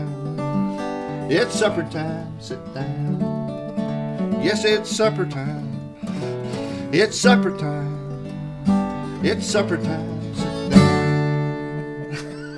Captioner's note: laughter